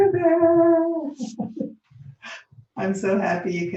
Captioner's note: laughing